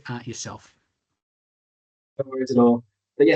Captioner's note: audio dips